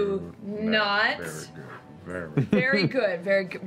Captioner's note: whispering